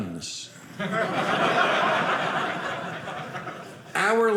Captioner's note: audience laughing